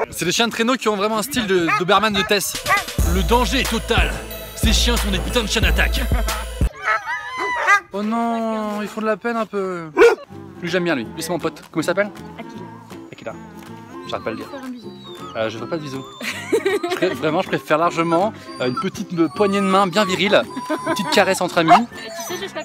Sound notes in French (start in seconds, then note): 7.4 aboie; 16.1 rire de la femme